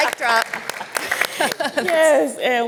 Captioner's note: applause